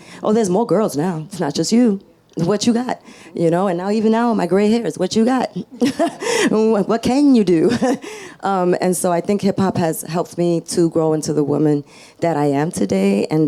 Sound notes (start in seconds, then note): 5.5 laughs